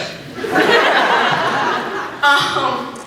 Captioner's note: laughs